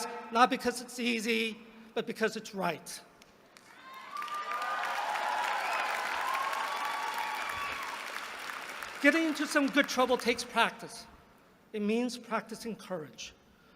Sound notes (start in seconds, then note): 3.5 applause